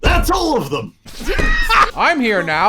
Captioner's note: laughter